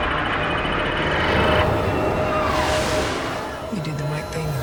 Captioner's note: missiles launching